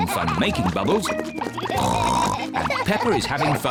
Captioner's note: oinks